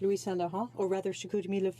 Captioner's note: speaking French